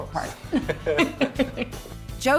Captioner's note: both chuckling